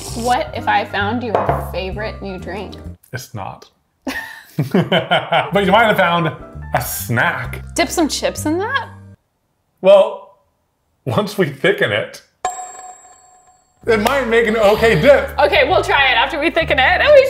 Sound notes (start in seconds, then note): 0.0 sip noises; 4.0 giggles; 4.1 laughs; 12.4 bell dings